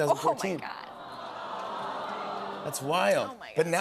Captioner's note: audience aws